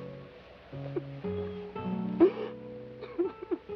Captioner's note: sobbing